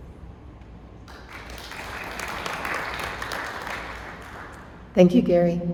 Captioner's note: applause